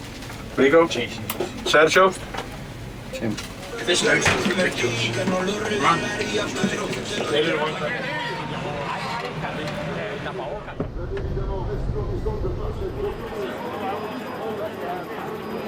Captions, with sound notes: Yes, yes, yes, yes... Yes. [indistinct chattering] [helicopter buzzing]